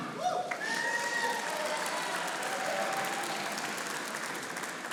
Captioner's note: audience applauding